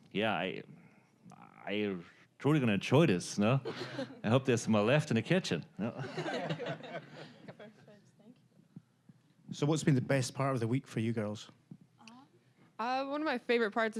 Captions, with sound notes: Yeah, I'm truly going to enjoy this, no? I hope there's more left in the kitchen. (audience laughing) >> (with Scottish accent) So what's been the best part of the week for you girls? >> One of my favorite parts